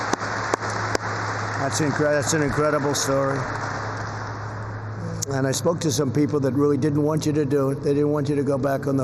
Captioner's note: applause